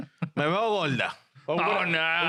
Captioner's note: speaking In Foreign Language